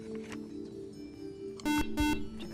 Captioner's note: buzzer